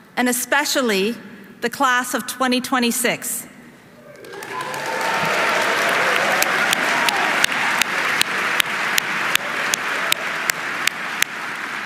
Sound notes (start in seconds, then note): 4.0 audience applauding; 4.0 audience cheering